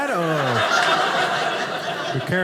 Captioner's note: audience laughing